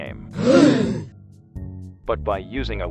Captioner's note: everyone gasps